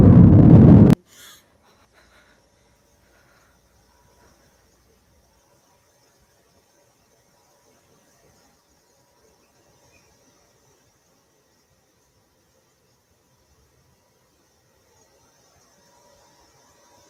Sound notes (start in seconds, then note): 1.1 girl gasps; 4.8 background static